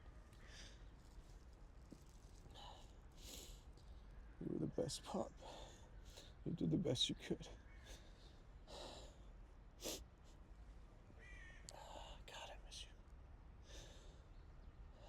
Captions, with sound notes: You were the best, Pop. You did the best you could. [sniffles] God, I miss you.